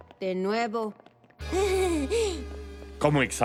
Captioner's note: sheepish laugh